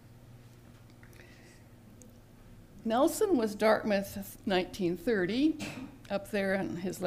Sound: cough in background

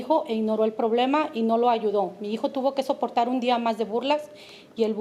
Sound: speaking Spanish

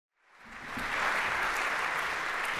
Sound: applause

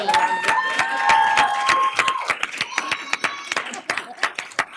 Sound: applause

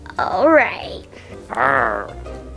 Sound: growl

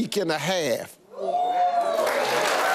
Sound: audience cheers and applause

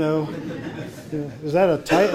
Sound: audience laughing

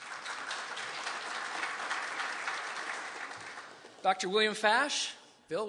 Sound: applause

